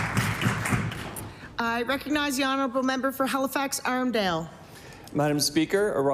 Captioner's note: applause